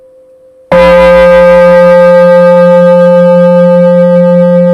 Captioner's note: bell